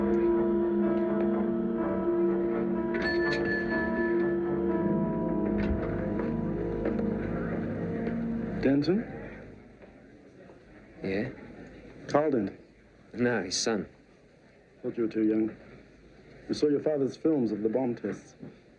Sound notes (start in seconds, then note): 1.4 elevator bell dings